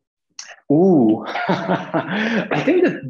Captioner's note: laughing